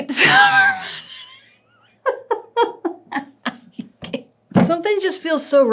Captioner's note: laughs